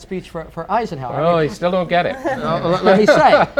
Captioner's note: laughter